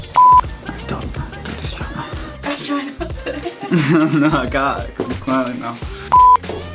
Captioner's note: whispering; laughter